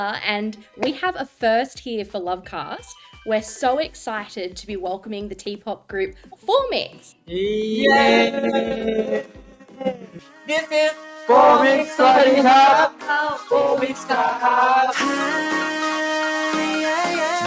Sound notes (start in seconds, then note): 7.7 collective cheering